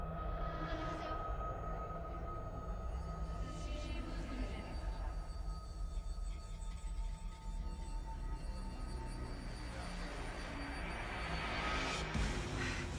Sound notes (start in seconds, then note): 0.2 tense music continues; 3.8 distorted talking; 10.0 dramatic music